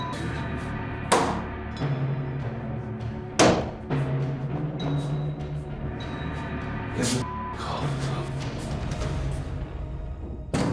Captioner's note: banging